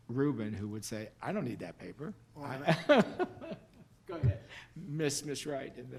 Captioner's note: laughs